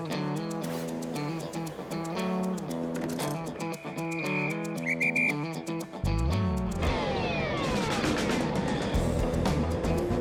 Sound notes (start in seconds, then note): 0.3 upbeat music; 3.0 door clunks; 3.9 whistle blows; 6.9 carriages rumbling